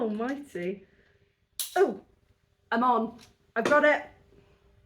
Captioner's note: click